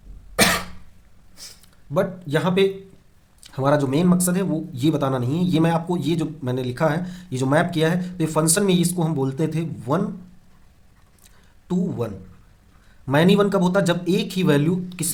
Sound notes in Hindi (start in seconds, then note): 0.3 गला साफ़ करने की आवाज़